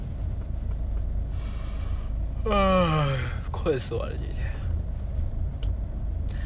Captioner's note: yAwN